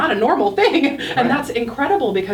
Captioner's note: laughing